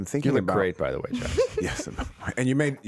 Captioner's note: laughing